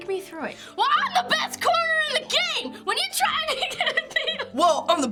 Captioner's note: laughs